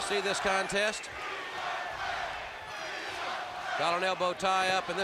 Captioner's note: crowd cheering